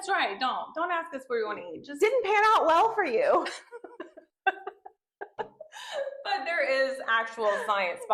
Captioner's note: laughter